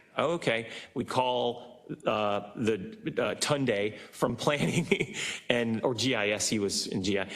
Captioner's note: laugh